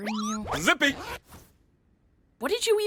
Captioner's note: zip!